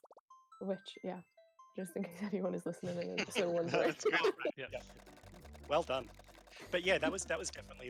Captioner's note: laughing